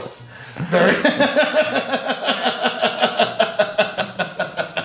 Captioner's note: laughter